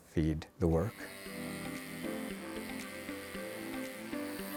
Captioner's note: chisel buzzing